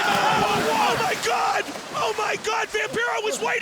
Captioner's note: water splashing